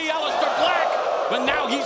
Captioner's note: crowd wooing